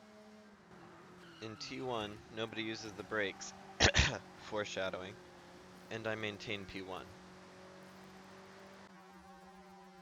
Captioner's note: cough cough